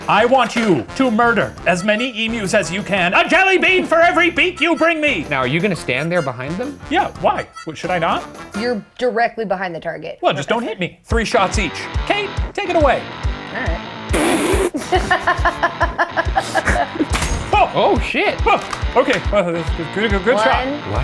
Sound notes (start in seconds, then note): 14.1 spit-laughs; 14.5 laughs; 17.0 metallic pinging